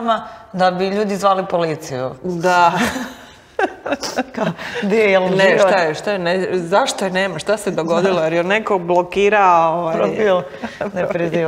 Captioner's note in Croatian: smijeh